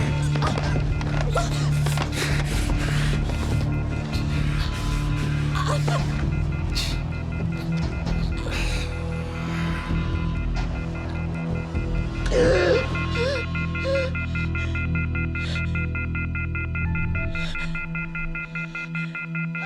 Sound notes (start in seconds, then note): 0.0 phone beeping; 1.4 man panting; 5.6 choking; 11.9 phone beeping; 11.9 gasping